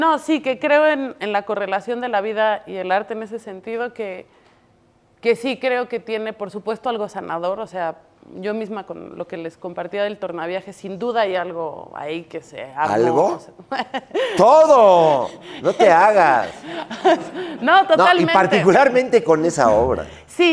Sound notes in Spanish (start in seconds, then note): 15.6 Risas